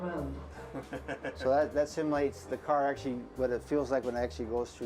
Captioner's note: chuckles